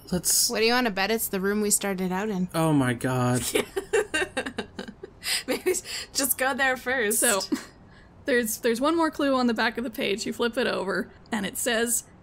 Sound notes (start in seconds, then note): 3.5 laughs